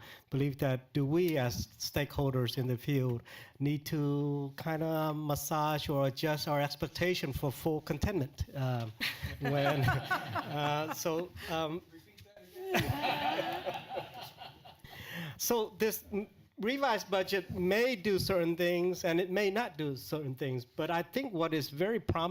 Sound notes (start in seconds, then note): 11.1 laughter